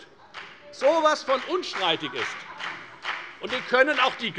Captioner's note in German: Beifall bei der FDP